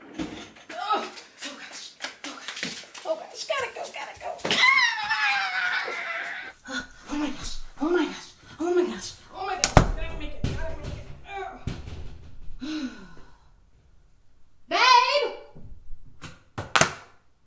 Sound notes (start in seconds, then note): 4.5 screams; 12.0 banging; 12.5 sighs